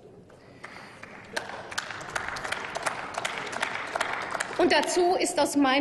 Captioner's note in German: Applaus